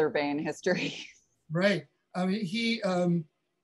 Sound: chuckling

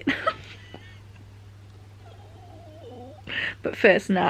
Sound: laughing

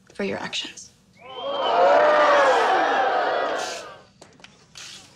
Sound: audience reacts in shock and cheers

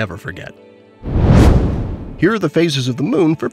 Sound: comet whooshing

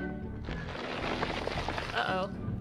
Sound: ice crackles

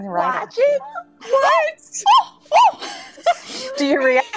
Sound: shouting

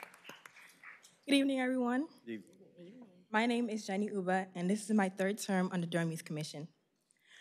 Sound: applause

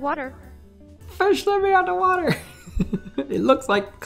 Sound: laughs

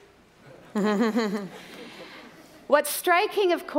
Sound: laughter

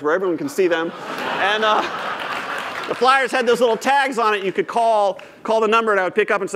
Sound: laughter

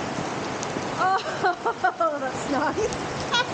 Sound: laughing

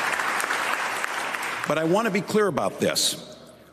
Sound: applause

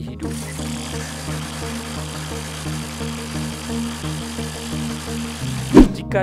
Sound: engine

